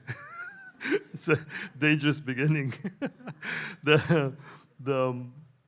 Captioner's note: laughs; laughs